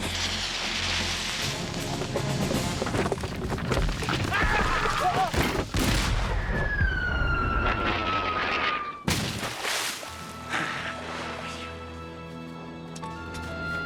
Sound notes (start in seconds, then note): 0.0 thudding; 0.0 hissing; 4.4 men yelling; 5.9 booming and whistling; 9.0 splashing; 10.0 gentle music